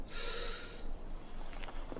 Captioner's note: gasps